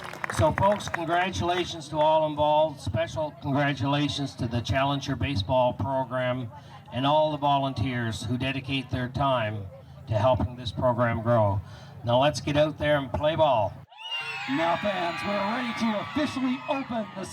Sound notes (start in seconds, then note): 13.9 cheers